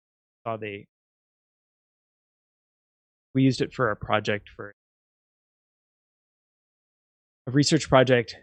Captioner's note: audio out